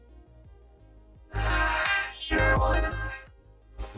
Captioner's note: sighs